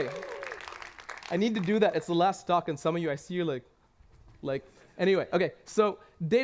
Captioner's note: cheers and applause